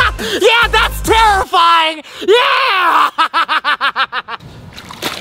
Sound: laughs loudly

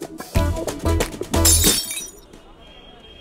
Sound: glass shatters

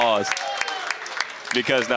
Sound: applause

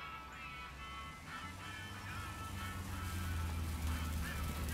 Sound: engine rumbling

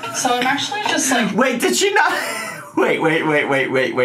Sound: laughs

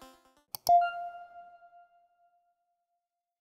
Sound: click

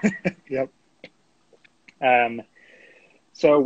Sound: laughing

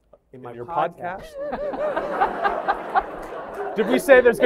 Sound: laughter

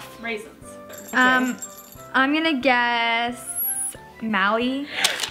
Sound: bell tinkling

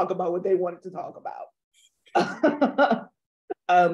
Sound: laughs

